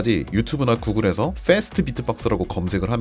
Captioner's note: Fast Beatbox